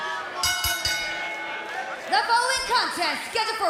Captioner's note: crowd cheering; bell ringing